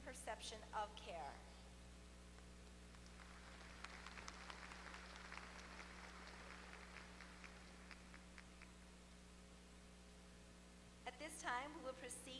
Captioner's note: applause